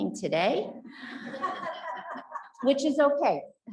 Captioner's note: audience laughs